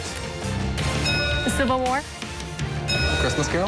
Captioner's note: bell dings